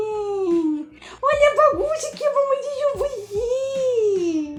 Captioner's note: in portuguese; still in portuguese